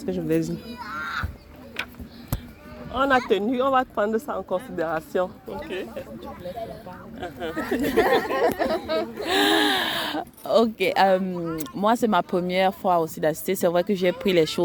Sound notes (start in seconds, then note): 7.2 laughs